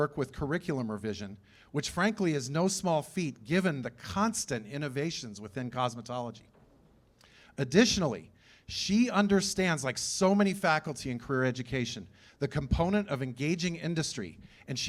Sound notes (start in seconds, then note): none